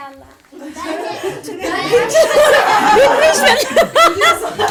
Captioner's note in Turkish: gülüşme